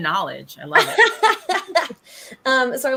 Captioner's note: laughter